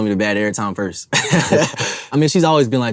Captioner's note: everyone laughs